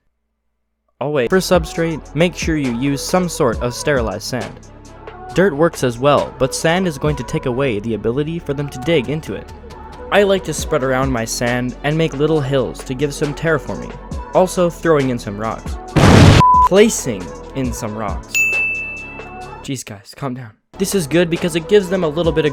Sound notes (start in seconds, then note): 15.9 explosion; 18.3 checkmark ding